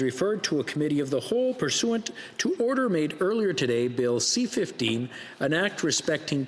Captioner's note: speaking French